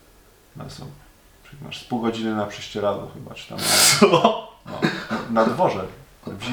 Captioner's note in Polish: śmiech